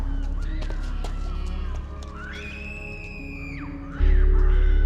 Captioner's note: Hermione Screaming